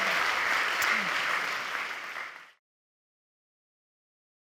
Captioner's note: audience applauding